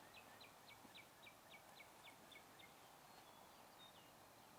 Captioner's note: birds chirping